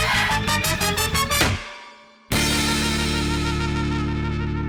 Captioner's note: exhales; clunk!